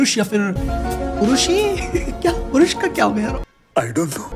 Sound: while laughing

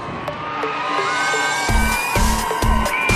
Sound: cheering

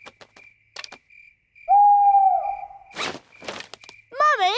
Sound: hooting

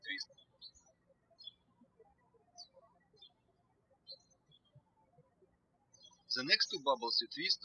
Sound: birds chirping

